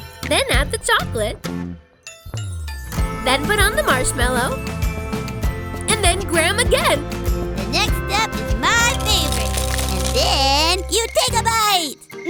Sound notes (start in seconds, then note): 9.2 clattering